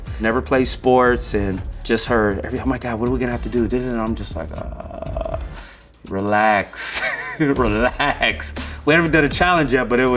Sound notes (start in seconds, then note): 6.8 laughs